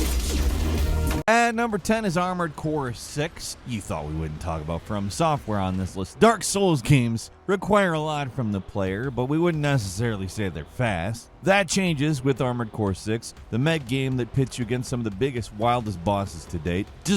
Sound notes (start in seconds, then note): none